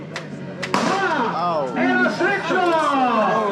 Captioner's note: gunshot